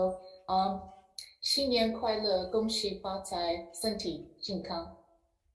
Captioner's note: speaks foreign language